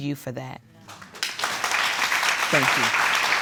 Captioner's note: audience applauds